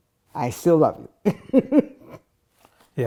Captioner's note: laughing